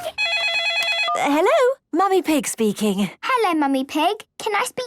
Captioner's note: phone ringing